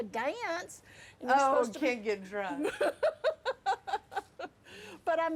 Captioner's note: mom laughs